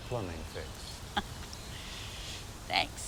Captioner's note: Vanessa chuckles